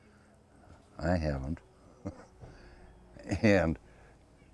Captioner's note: laughs